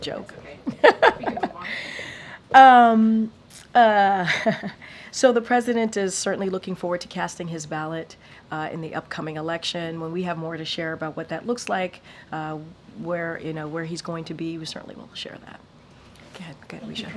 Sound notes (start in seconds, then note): 0.7 laughs